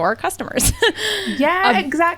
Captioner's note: laughs